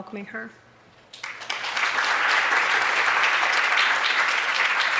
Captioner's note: applause